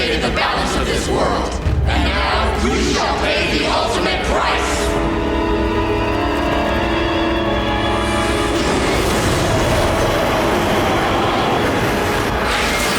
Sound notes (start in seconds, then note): none